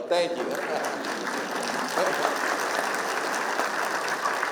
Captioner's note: applause